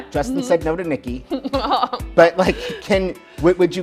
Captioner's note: laughs